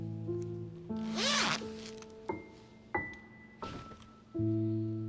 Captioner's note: hoodie zipping closed; somber music